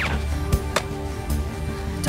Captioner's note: dart thuds